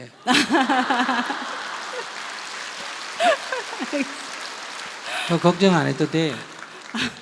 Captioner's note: questioner/ Laughter